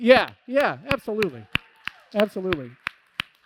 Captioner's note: applause